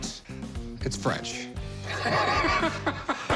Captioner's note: laughter